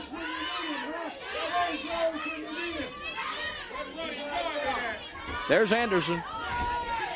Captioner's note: crowd chatter